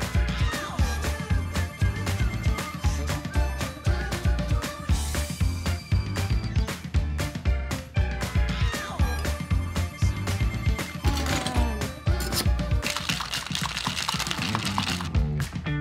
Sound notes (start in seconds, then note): 0.0 energetic music; 11.0 ice rattling; 12.2 metal grating; 12.8 ice rattling